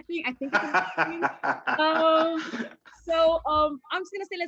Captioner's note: laughs